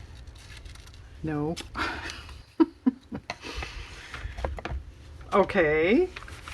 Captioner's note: laughs